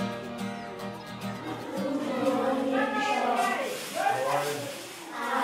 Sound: people talking

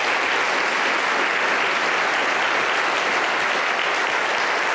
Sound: applause

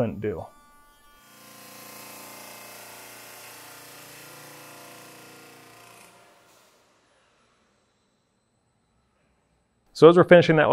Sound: machine sound

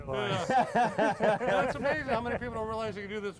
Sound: laughter

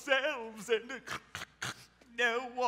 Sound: snorts

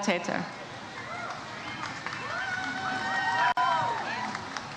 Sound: audience cheers

